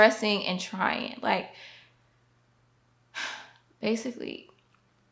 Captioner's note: sighs